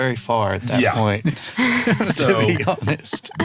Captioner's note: laughing